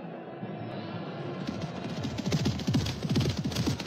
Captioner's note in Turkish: atlarin koşma sesleri̇